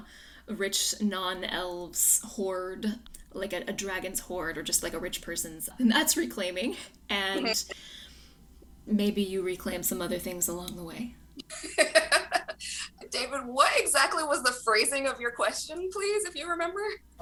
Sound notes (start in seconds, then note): 11.5 laughs